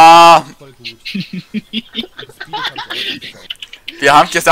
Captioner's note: laugh